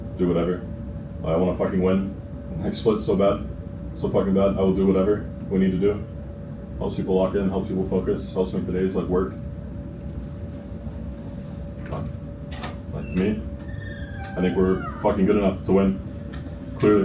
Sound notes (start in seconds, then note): none